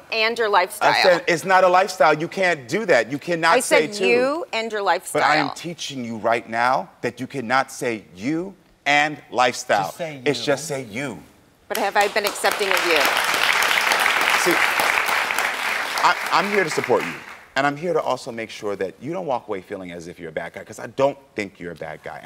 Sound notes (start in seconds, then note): 11.7 audience applauds